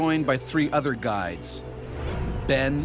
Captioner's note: voiceover